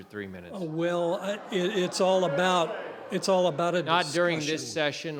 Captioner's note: crowd interjecting in disagreement